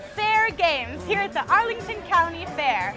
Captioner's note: crowds murmuring